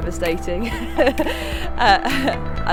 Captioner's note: laughing